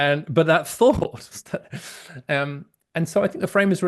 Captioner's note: laughs